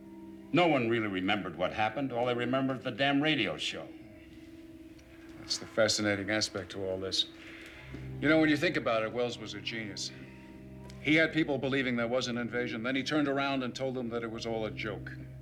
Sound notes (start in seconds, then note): none